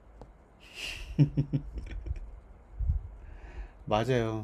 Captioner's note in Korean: 웃음